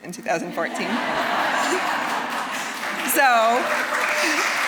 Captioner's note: audience laughing; applause